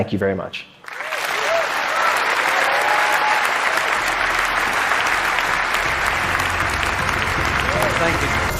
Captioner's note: applause